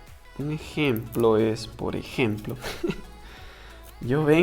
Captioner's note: laughs